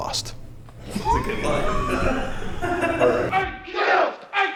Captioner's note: laughing; shouting